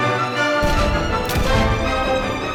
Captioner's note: revolver fired; revolver fired X2; revolver reloads